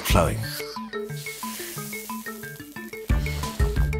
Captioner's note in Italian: crepitio della sigaretta